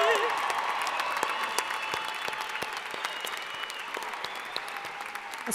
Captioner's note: cheering